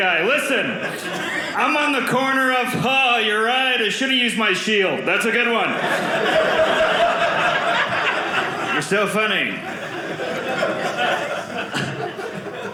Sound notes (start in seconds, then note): 5.6 audience laughing